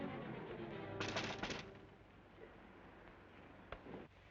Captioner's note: knocking